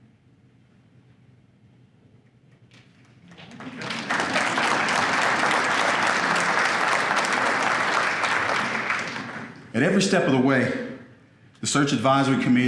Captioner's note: applause